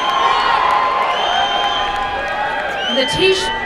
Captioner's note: applause and cheering